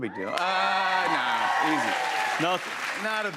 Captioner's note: cheers and applause